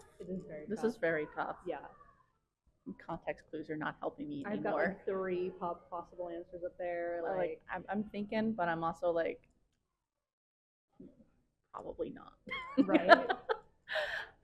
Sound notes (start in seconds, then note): 12.6 laughs